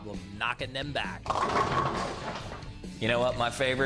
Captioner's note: bowling pins clacking